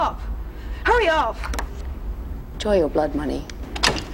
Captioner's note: safe clicks